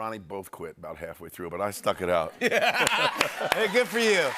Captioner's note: laughter and applause